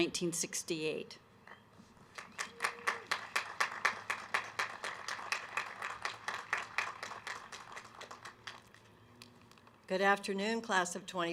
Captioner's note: applause